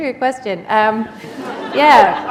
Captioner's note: laughter